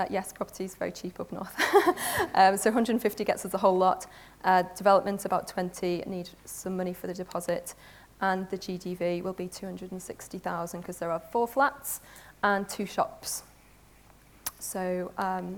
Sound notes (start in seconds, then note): 1.5 laughs